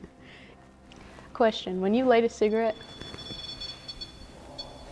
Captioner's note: REM pod beeping